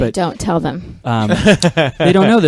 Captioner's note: laughs